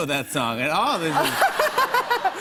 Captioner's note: laughter